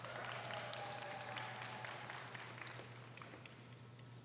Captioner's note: applause